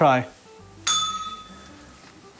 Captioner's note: bell rings